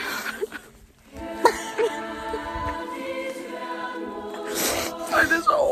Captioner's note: sobbing